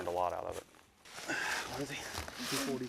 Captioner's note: groans